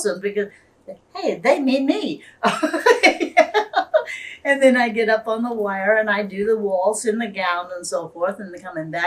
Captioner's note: laughs